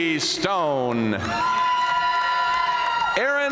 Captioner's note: audience cheering and applauding